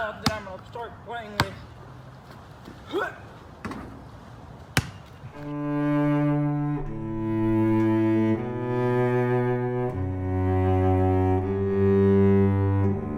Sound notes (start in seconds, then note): 2.9 gruñe; 5.3 música reflexiva